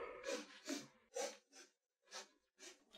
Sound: sniffs

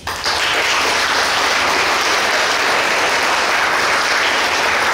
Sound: clapping

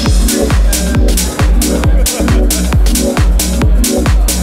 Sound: crowd talking and laughing

